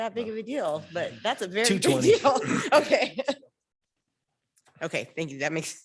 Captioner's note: laughs